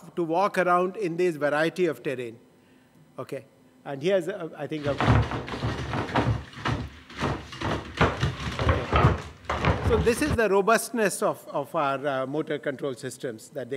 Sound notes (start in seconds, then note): 4.8 feet clatter